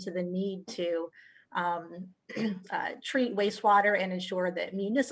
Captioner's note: throat clearing